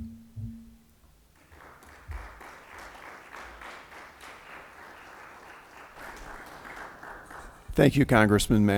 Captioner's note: applause